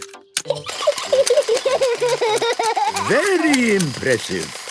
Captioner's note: giggling; George laughing